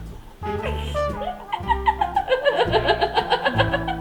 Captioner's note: laughs